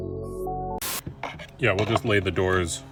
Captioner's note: TV hissing